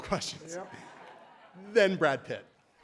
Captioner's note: laughter